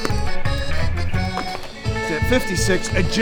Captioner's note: jumping jacks noises